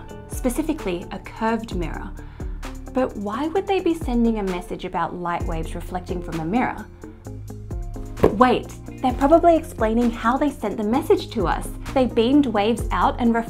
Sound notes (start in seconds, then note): 7.0 introspective music; 8.2 hands thumping